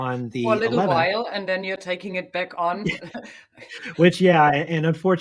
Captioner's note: chuckles